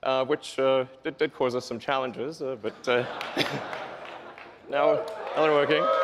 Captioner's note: laughs